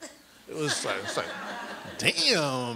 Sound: audience laughs

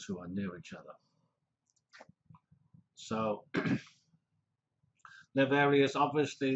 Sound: pause

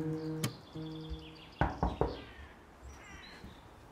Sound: strumming guitar; knocking

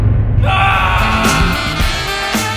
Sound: screams

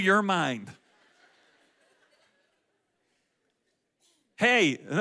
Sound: audience laughs

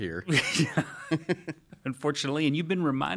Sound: laughing

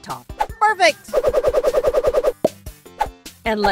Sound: whooshing sound

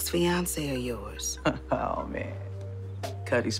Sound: chuckling

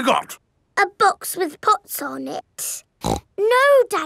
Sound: snorts

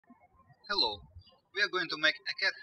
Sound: birds chirping

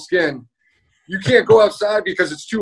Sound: laughs

